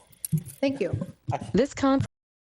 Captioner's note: AI Voice